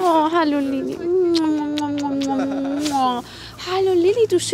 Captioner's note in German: Kussgeräusche